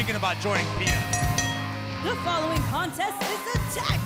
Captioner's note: bell rings